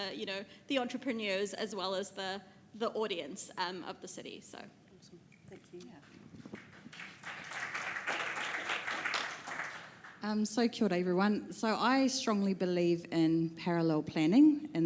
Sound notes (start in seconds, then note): 6.5 audience applause